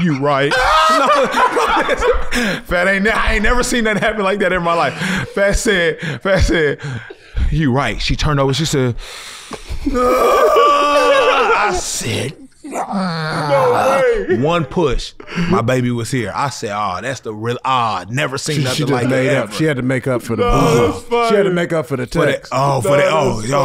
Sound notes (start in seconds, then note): 0.0 laugh; 9.9 screams